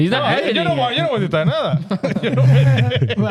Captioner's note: speaking In Foreign Language